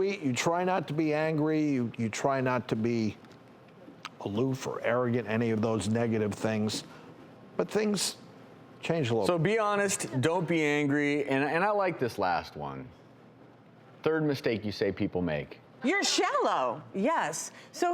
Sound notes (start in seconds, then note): none